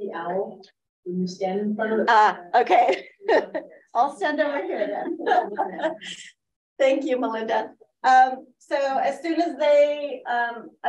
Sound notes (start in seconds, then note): 4.8 laughs